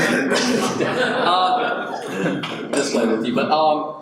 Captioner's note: audience laughs